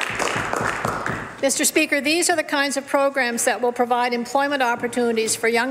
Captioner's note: some Applause